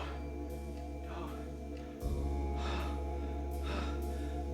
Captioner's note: breathing heavily